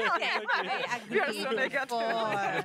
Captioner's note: laughing